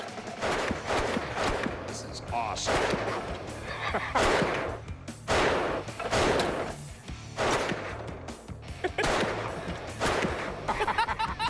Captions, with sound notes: This is awesome. (laughs)